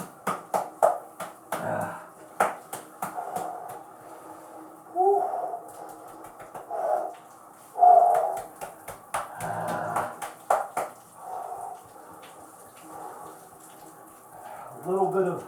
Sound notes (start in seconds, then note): 0.7 more slaps